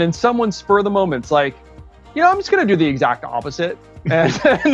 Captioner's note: laughs